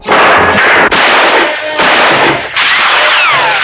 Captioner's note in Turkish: Silah sesleri